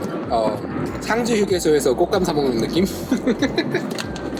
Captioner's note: haha